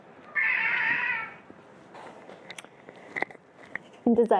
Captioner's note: cat growls